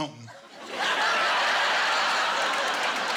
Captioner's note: laughter